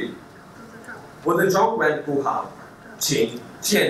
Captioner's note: speaking Chinese